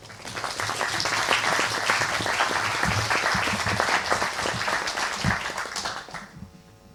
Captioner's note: applause